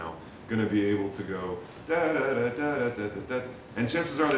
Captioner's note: mimics melody